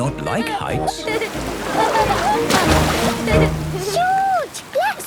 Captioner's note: laughing